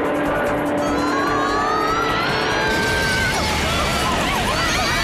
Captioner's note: screaming